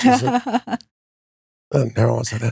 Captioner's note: laughing